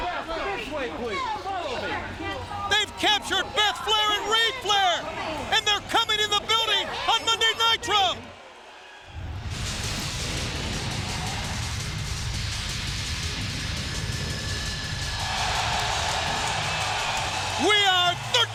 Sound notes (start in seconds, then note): 9.2 logo whooshing; 15.5 audience cheering